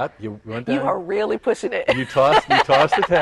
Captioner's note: laughter